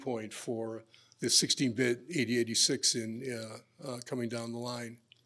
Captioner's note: none